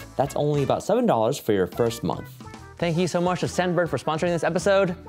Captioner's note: none